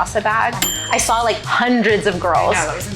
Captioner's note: bell dings